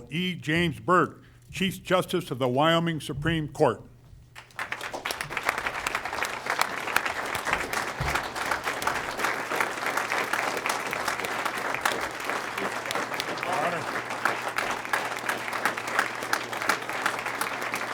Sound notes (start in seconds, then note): 4.5 applause